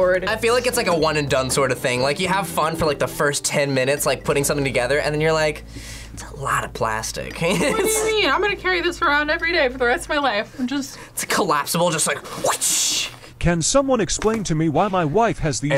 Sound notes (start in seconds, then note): 7.4 laughs; 12.7 mimics whip